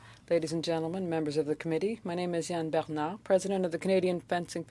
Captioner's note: speaking French